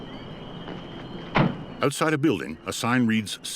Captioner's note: door slams